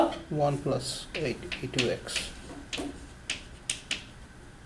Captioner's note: voiceover